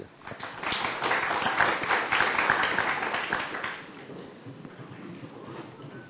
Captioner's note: applause